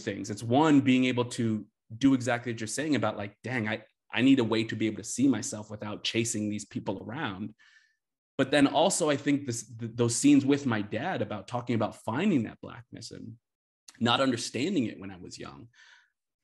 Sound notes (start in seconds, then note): none